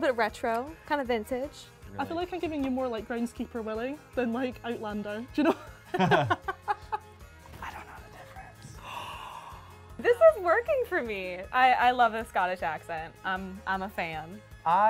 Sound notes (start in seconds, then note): 5.4 both laugh; 8.8 woman gasps